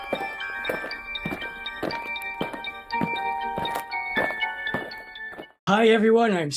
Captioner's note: eerie music; aliens marching